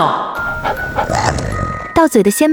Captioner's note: dog gasps